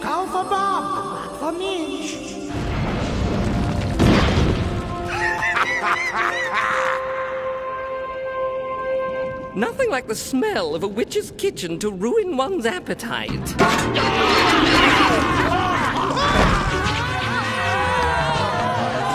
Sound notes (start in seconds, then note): 2.5 rumbling; 5.1 laughing; 14.0 screaming